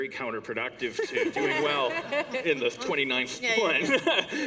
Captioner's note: laughter